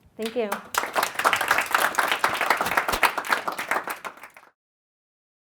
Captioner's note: audience applauds